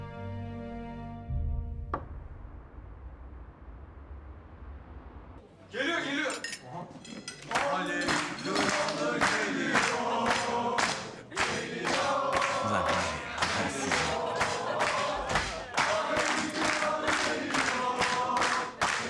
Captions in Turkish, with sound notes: Geliyor, geliyor. (Hep bir ağızdan) Âlemin kralı geliyor! Geliyor! Ulan var ya, ben sizin. (Hep bir ağızdan) âlemin kralı geliyor! (Alkış sesleri)